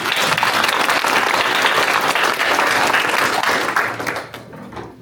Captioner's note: applause